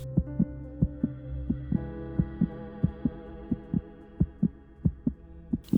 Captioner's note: heart beat